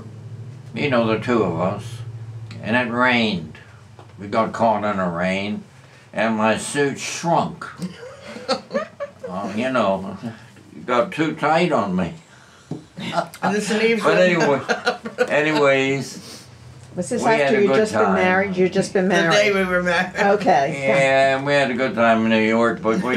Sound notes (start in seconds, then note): 7.7 laughter; 13.0 laughs